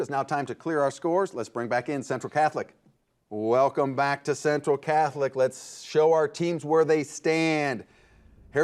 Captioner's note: none